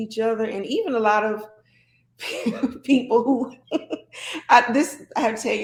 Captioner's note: laughs